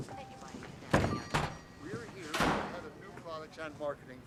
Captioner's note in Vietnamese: tiếng mở,đóng cửa